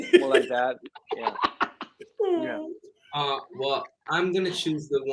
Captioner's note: laughing